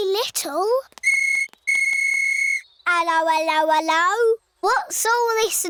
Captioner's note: blows whistle